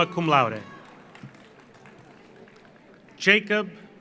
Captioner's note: audience cheers; audience applauds